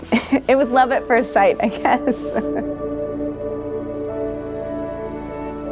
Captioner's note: laughing